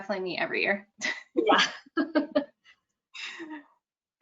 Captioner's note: laughs